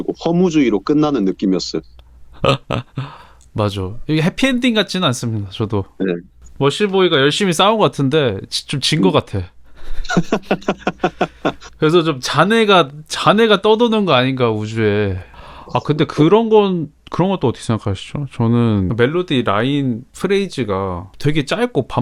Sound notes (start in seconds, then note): 9.8 laughs